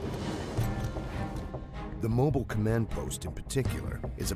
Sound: dramatic music; voiceover

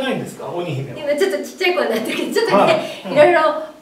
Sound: laughs

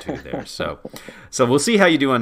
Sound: laugh

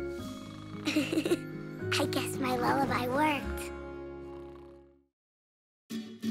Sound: snoring; laughs

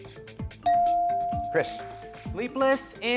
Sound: bell dings

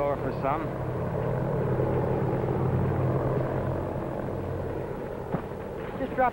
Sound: rotor blades whirling

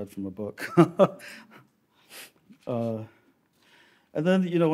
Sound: laughs

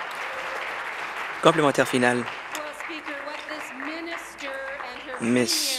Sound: applause

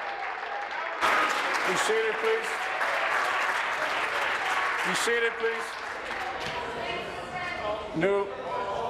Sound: applause

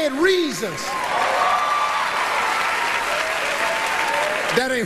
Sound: audience cheers

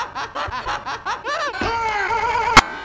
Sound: Heavy laughs loudly; Heavy laughs loudly but Skype Laughter Chain

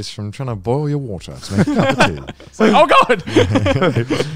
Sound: laughing

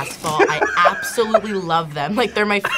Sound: laughs

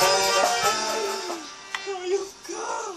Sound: weeping

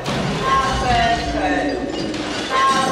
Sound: echoing

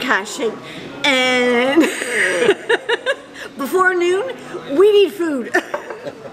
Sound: chuckles

